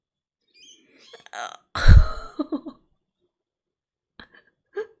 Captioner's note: laughs